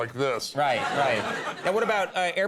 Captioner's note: audience laughs